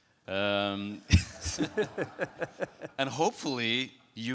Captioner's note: laughing